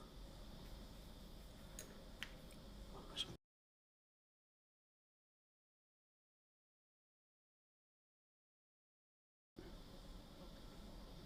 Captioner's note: silence